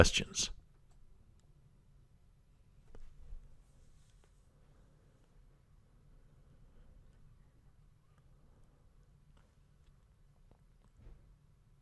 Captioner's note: pause